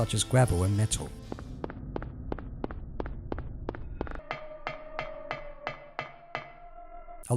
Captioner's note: footsteps on gravel; footsteps on metal